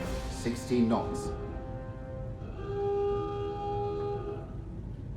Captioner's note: submarine alarm blaring